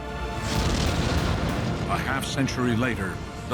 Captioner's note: rockets ignite